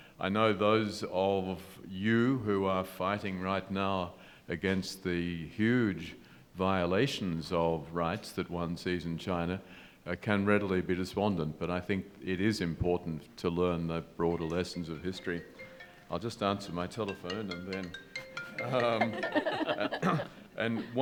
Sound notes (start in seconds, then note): 14.3 phone ringing; 18.5 panelists laughing